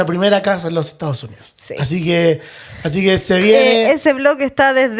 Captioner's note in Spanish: none